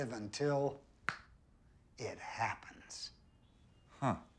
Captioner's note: snaps fingers